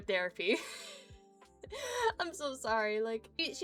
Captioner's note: giggling